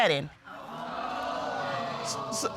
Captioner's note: audience exclaims